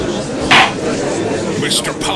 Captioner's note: gallery chattering; gavel slams!